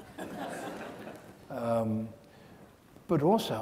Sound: audience laughs

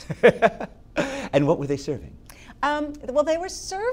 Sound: laugh

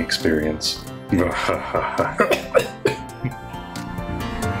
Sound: coughs, chokes

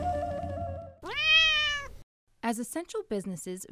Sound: flute music; meowing

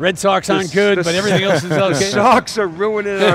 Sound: laughing

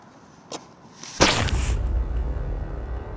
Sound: bag rustling

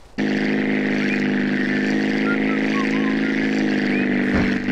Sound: CJ Whislting

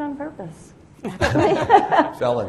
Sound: laughter erupts

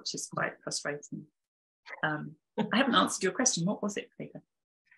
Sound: chuckling

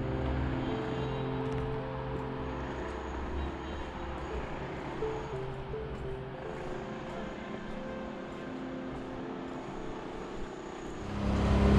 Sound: construction noise in the distance; loud construction noise

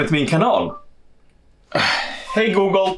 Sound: Google Speaker sounds

